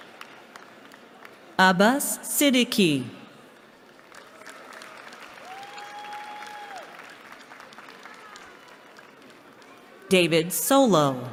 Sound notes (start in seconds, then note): 3.4 applause